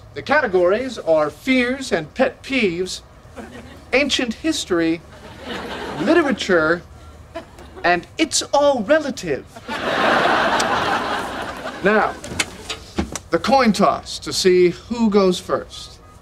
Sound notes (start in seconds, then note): 9.5 audience laughing